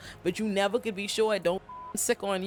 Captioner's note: beep